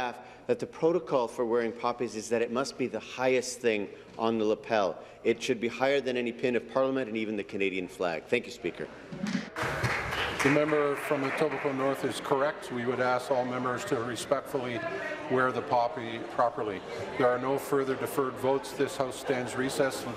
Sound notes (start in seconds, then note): 13.4 applause